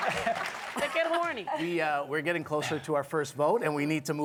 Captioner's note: applause